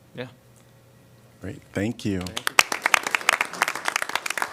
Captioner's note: applause